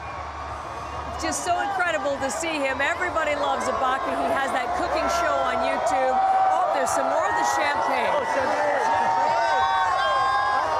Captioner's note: cheering